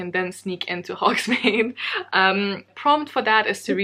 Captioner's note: laughs